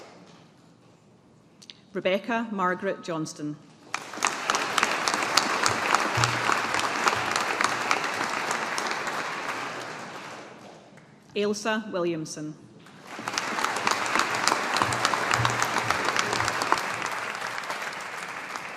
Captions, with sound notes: Rebecca Margaret Johnston. (AUDIENCE APPLAUDING) Ailsa Williamson. (AUDIENCE APPLAUDING)